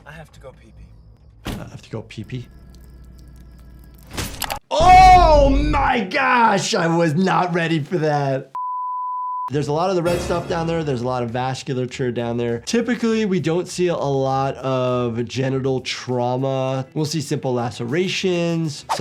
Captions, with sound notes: - I have to go pee pee. (car door slams) - I have to go pee pee. (water trickling) (metal sheathing) Oh my gosh! I was not ready for that. (quick beep) There's a lot of the red stuff down there. There's a lot of vasculature down there. Typically, we don't see a lot of genital trauma. We'll see simple lacerations.